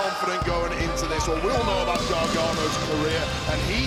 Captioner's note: presenter speaking faintly off mic